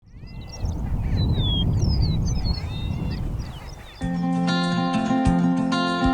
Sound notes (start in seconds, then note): 0.0 prairie chickens calling; 3.9 folksy music plays